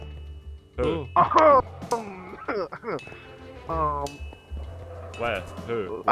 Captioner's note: pointed coughing